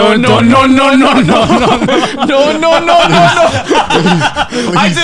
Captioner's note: laughing